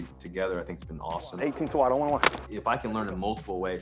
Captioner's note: helmets clacking